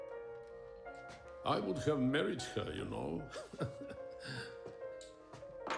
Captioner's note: chuckles